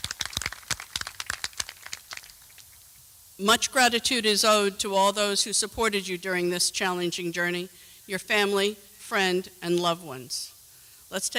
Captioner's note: applause